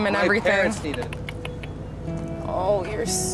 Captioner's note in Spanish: Clics de lengua